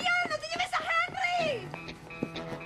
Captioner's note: speaking Spanish